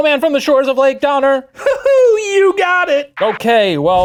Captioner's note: chuckling